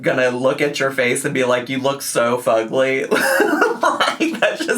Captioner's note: laughs